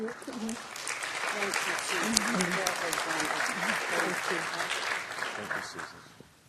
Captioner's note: applause